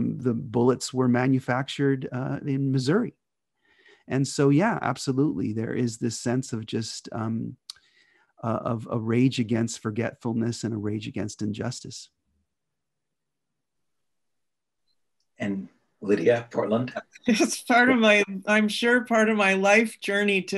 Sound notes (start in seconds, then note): 17.2 laughs